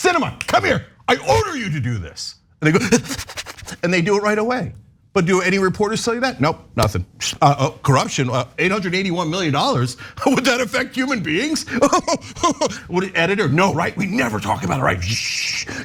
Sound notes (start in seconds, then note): 11.6 laugh